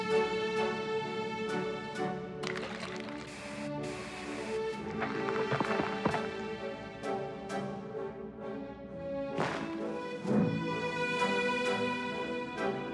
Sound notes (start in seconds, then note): 2.5 spraying; 4.8 cracking